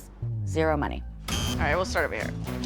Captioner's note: buzzer blares